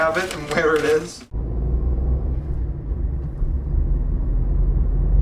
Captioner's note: tires humming